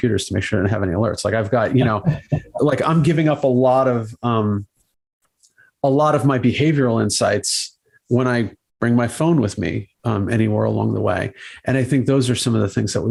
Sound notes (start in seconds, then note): 1.6 host laughs